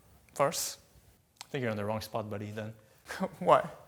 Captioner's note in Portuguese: risos